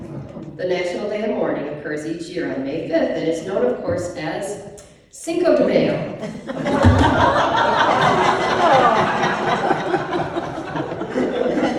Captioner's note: laughter